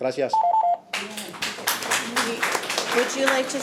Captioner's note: audience applauding